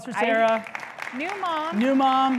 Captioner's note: public applauding